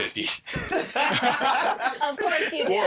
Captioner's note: all laughing